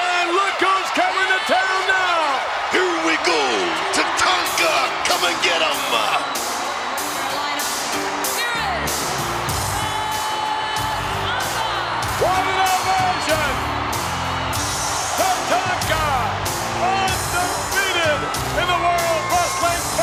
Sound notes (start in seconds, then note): 6.4 audience cheers; 6.4 upbeat music